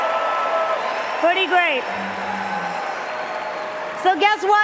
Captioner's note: cheers and Applause